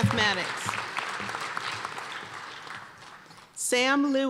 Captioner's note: applause